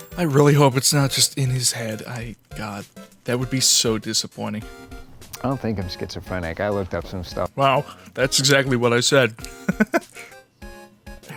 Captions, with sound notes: I really hope it's not just in his head, I- God. That would be so disappointing. "I don't think I'm Schizophrenic, I looked up some stuff." Wow. That's exactly what I said. *giggle*